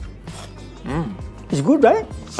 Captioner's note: rice crunching